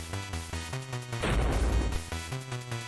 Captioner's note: thud